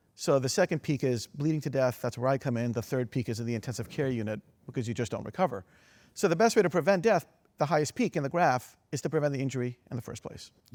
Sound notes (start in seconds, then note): none